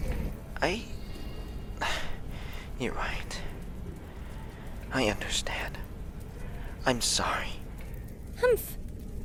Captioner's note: sigh